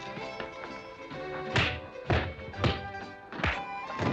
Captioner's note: pop, pop, pow, bam; thump